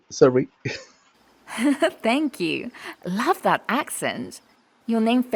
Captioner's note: laughs